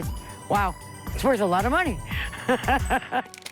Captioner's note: laughs